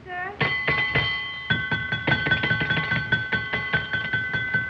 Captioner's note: harpo rings bell frantically